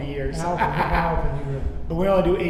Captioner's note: laughing